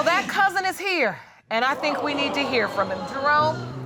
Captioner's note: audience gasps